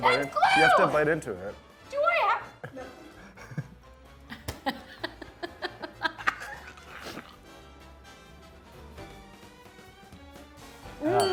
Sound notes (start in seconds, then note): 4.2 chuckles; 4.3 laughs; 6.7 disgusted groan; 7.6 upbeat lively music